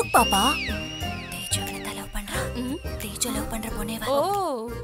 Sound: whispering

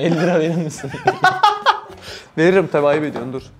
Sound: laughs

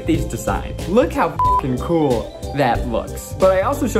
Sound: beep

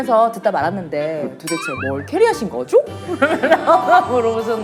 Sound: slight impersonation

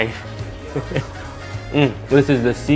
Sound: laughs

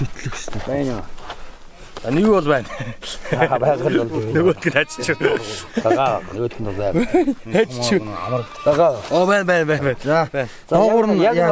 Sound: asking himself sarcastically

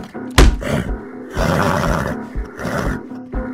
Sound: more grunting

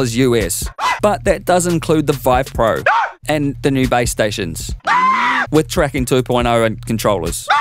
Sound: scream; scream; scream

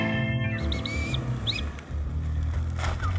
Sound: whistling

